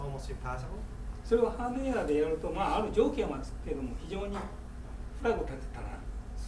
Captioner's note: speaking in foreign language